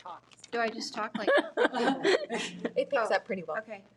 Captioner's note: participants laughs